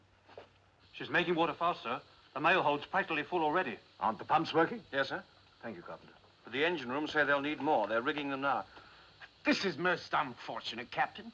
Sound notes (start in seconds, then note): none